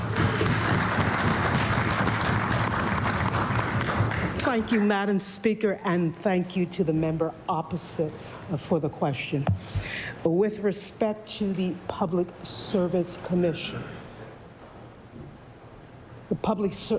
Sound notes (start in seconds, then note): 2.7 applause